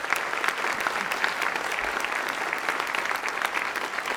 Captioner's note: audience clapping